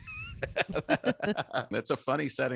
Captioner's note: laughing